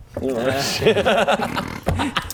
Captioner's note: hysterical laugh